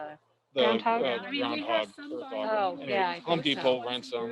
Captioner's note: crowd chattering